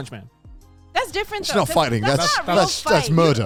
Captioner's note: laughs